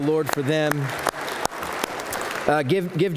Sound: applause

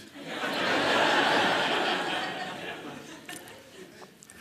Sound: laughter

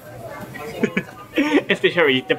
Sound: chuckle

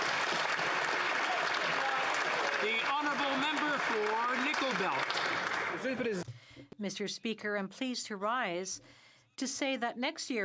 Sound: some Applause

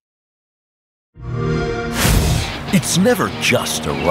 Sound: xbox sound

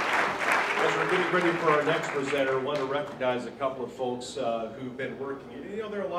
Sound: applause

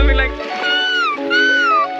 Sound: dolphin sounds

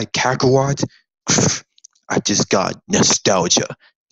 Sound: scoffs

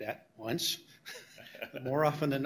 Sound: chuckle

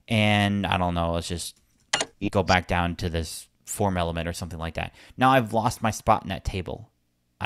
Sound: beep sound

